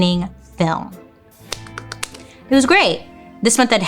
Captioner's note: clapping